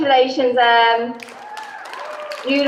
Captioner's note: applause